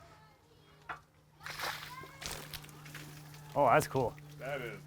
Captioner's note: water splashing